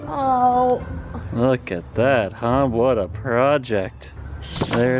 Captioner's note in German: sarkastisch